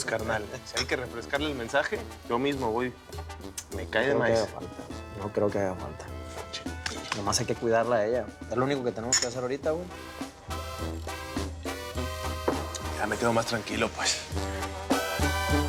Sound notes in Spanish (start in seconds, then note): 3.5 Chasquido bucal; 6.8 Palmadas